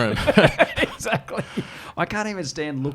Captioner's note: laughs